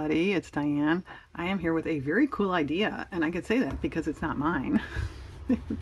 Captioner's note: laughs